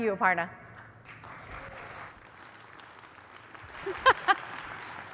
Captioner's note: applause